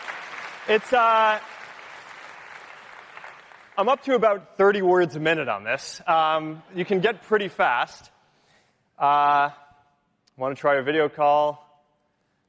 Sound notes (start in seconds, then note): 1.8 cheering